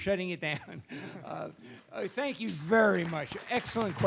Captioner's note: handclaps